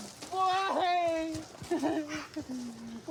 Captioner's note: sobs